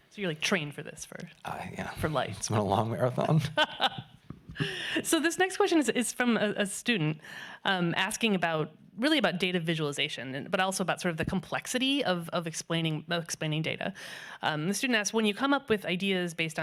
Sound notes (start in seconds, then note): 3.1 laughing